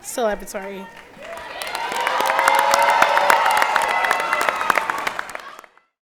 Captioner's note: applause and Cheering